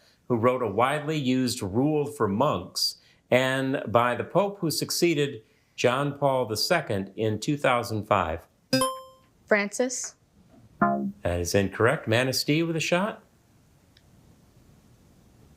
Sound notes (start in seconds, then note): 8.8 buzzer chimes; 10.8 womp chimes